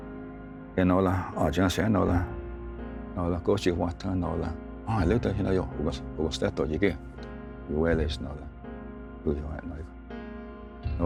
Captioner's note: tells story in Cherokee language